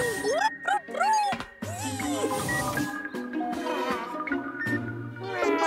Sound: whirring; electronic chattering

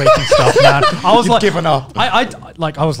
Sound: laughs

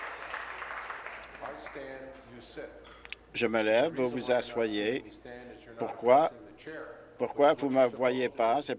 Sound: applause

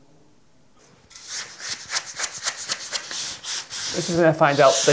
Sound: brushing

